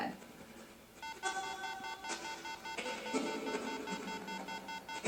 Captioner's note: GS2 beeping